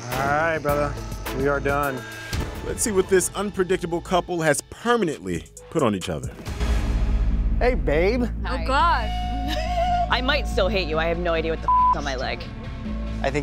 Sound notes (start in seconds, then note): 11.6 beep